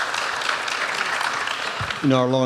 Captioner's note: applause